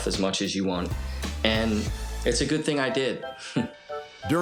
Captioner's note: chuckles